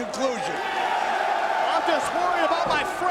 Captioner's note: spectators cheering